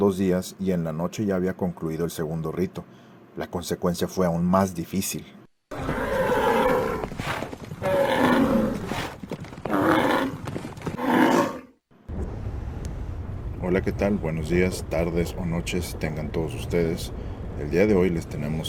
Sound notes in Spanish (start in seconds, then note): 5.7 Bramido y galope de bestia enorme